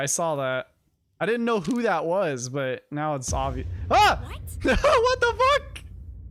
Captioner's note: jump scared then laughs